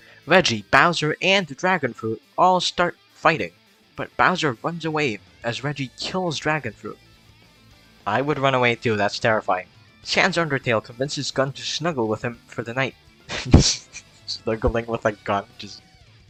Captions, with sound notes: Reggie, Bowser and dragon fruit all start fighting but Bowser runs away as Reggie kills dragon fruit i would run away too, that's terrifying Sans Undertale convinces gun to snuggle with him for the night *laughs* snuggling with a gun, just